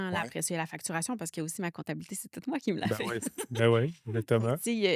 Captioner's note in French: rires